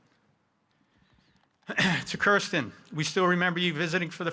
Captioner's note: clearing his throat